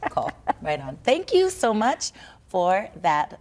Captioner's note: laughs